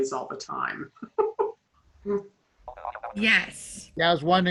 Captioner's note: laughs